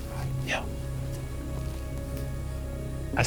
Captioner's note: whispering